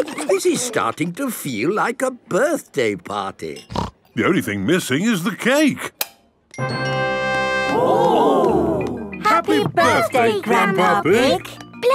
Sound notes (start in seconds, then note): 6.3 click